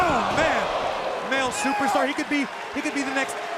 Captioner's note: crowd cheering